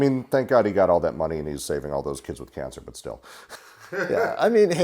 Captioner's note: laughs